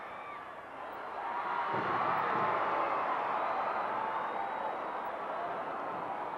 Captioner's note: audience cheering continues